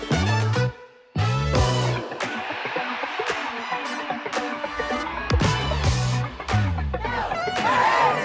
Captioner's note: crowd cheers